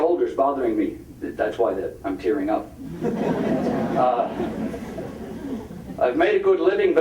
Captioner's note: audience laughing